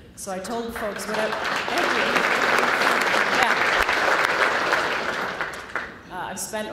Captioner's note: applause